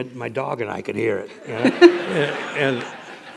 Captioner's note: laughter